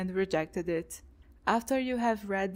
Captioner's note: none